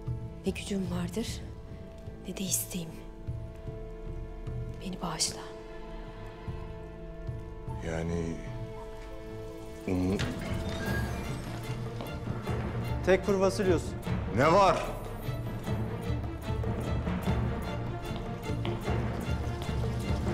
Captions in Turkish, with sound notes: ...ne gücüm vardır ne de isteğim. Beni bağışla. Yani... ...umu... (Kapı açılma sesi) -Tekfur Vasilius. -Ne var? (Müzik - Gerilim)